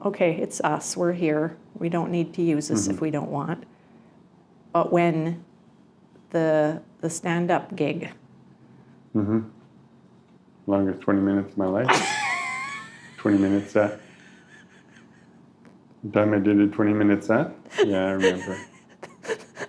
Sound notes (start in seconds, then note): 11.9 laughing; 17.7 still laughing